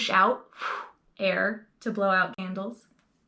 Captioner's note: blowing out air